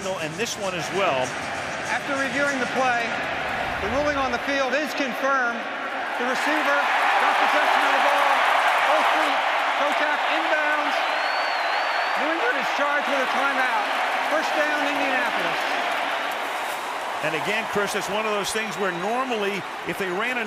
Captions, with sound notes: is that angle and this one as well. After reviewing the play, the ruling on the field is confirmed. [cheering] The receiver got possession of the ball. Both feet contact inbounds. New England is charged with the timeout. First down, Indianapolis. And again, Cris, it's one of those things where normally,